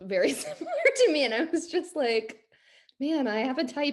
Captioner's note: laughs